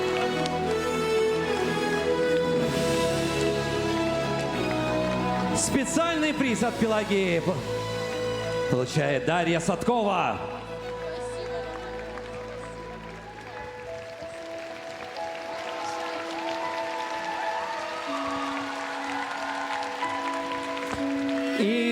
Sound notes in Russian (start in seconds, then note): 14.3 аплодисменты